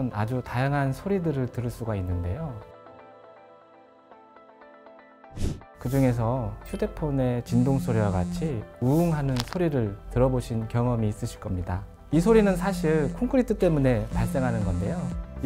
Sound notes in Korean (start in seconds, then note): 7.5 들어보셨을 핸드폰 진동과 비슷한 소리